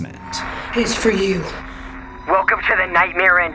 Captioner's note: phone rings